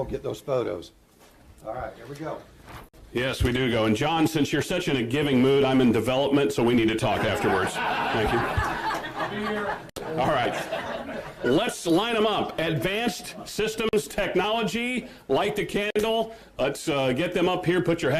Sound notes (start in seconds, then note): 7.2 laughter